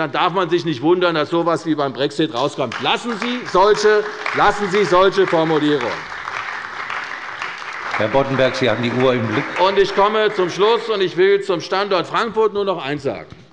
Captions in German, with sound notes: Dann darf man sich nicht wundern, dass so etwas wie ein Brexit herauskommt. Lassen Sie solche Formulierungen. (Beifall bei der CDU und dem BÜNDNIS 90/DIE GRÜNEN) Herr Boddenberg, haben Sie die Uhr im Blick? - Ich komme zum Schluss und will zum Standort Frankfurt nur noch eines sagen: